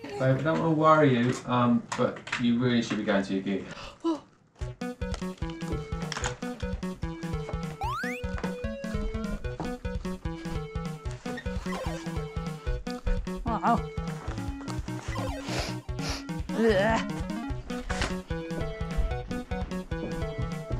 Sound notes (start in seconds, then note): 4.9 computer game music; 15.0 sniffs; 17.1 computer game music